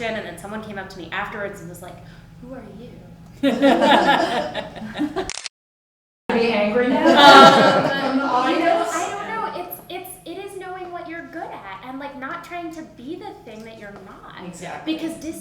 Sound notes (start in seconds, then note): 3.4 laughter; 5.2 camera clicks